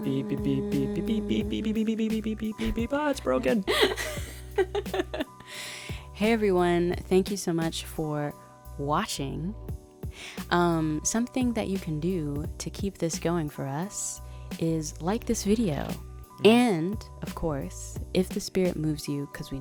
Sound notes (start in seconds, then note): 4.2 laughing